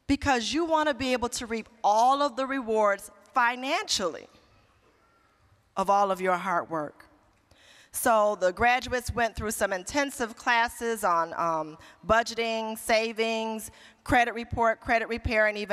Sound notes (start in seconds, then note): none